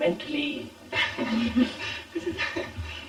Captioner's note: laughter